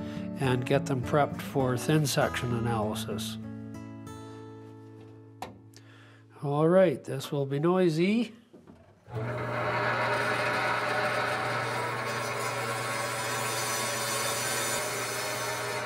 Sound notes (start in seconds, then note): 9.1 machine whirring; 12.1 blade grinding